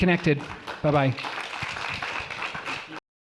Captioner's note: applause